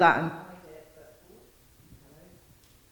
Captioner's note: speaking faintly